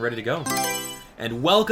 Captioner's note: Mario Selection Sound